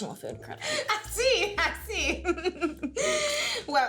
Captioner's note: laughing